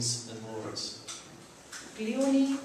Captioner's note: non-english speech